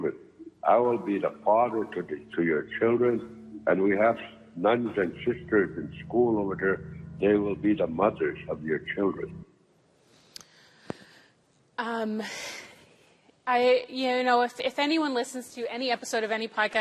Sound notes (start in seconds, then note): none